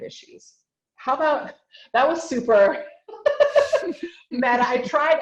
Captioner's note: laughs